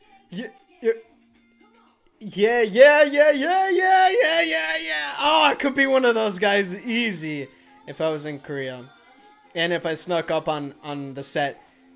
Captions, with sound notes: Yea-yeah. (repeating 'yeah!') Oh, I could be one of those guys easy. If I was in Korea. And if I snuck up on the set.